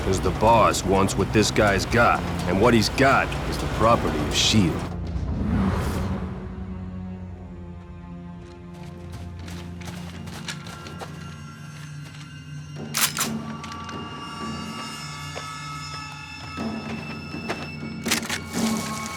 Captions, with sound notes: Because the boss wants what this guy's got. And what he's got is the property of SHIELD. [SUSPENSEFUL MUSIC] [COCKS GUN]